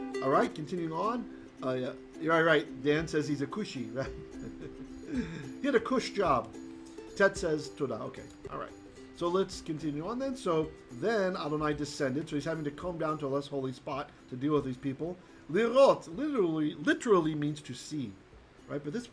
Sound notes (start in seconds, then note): 15.6 Hebrew